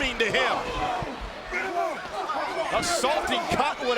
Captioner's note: crowd yelling; wrestlers grunting